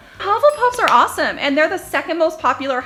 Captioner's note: dings